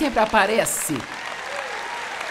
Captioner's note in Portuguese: audiência aplaude